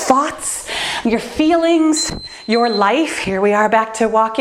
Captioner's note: timer beeps